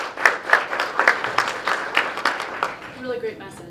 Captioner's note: clapping